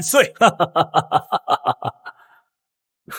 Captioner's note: laughter